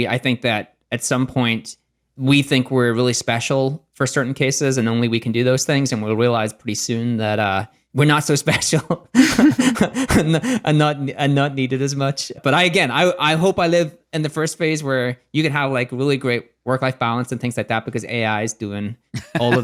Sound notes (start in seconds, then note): 9.1 laughs